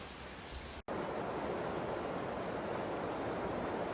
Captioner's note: heavy rainfall on church roof